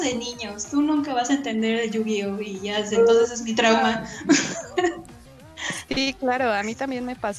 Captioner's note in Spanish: risas